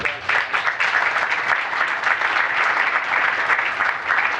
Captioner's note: applause